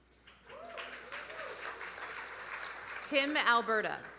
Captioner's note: audience applauding; audience cheering